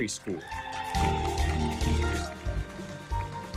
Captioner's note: audience member cheers; audience applauding